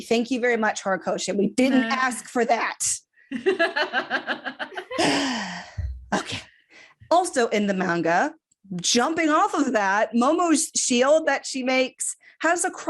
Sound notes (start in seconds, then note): 3.3 laughter; 4.9 sighs again